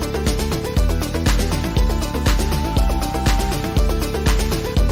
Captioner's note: none